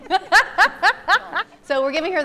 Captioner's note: laughing